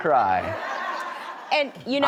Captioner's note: laughter